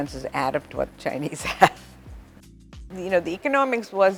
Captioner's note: chuckles